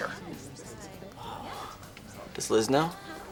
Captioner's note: sighs